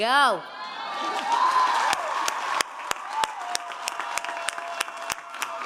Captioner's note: audience cheering and applauding